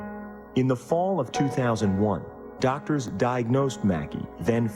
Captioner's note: voiceover